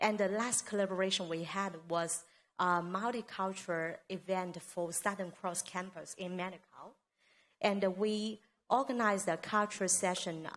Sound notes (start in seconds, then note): none